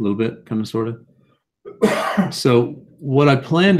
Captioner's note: cough